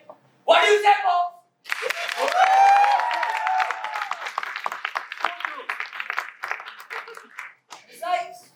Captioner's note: audience applauds